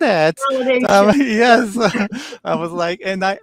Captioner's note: laughing